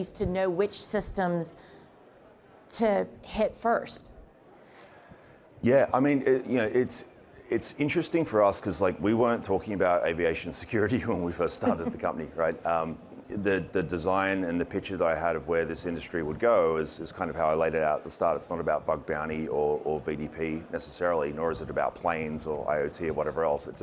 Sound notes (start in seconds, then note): 11.5 chuckling